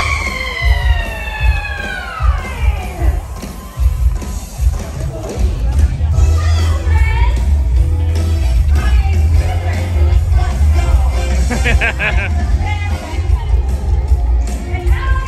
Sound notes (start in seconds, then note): 2.5 upbeat music; 11.4 laughing